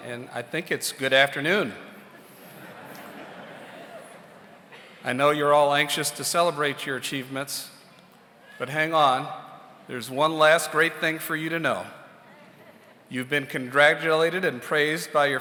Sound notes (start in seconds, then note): 2.0 audience laughs